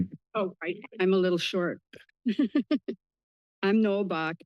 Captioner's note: laughs